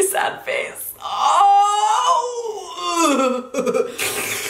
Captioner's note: groaning